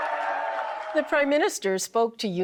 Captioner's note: people applaud